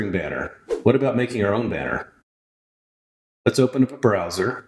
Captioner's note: woosh